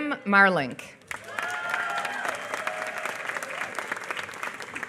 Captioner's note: applause